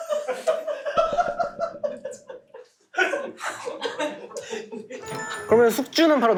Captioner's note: hushed